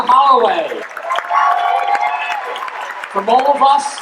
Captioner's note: audience applauding and cheering